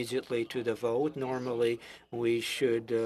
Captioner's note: speaking French